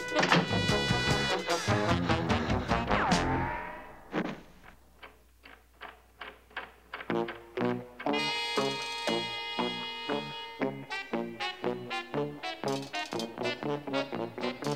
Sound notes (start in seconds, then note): 2.7 panting; 6.0 rattling